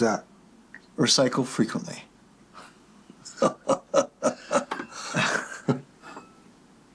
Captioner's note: laughing